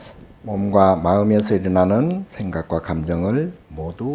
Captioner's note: speaking Korean